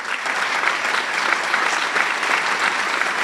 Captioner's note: clapping